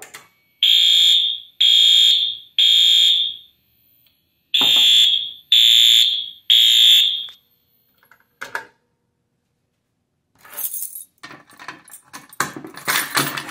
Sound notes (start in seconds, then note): 0.6 alarm sounds